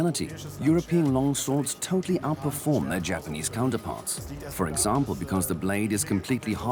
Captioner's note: in German; dubbed in English